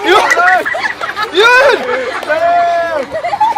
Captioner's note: laughter